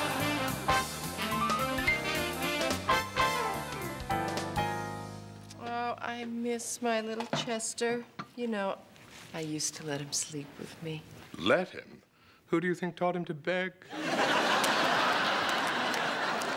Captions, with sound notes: Oh, I miss my little Chester. You know, I used to let him sleep with me. Let him? Who do you think taught him to beg? ( laughter )